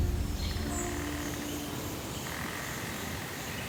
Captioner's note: birds chirping